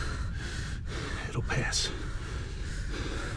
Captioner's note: breathing heavily